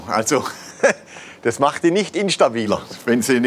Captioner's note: laughs